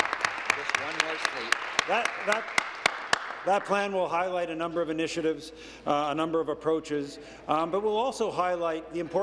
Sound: applause

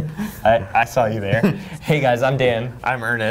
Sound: laughs

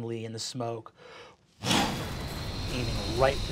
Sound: whooshing

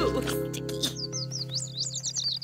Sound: birds chirp

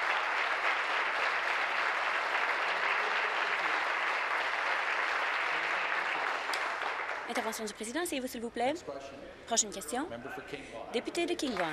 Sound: applause

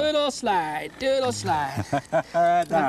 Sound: laughter

